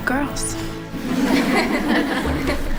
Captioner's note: laughter